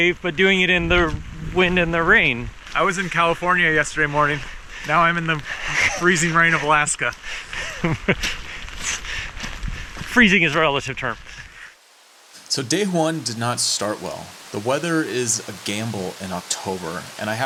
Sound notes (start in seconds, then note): 8.1 laughing